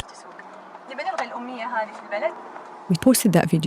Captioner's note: speaking in foreign language